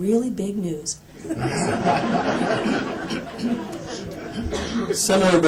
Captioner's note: laughter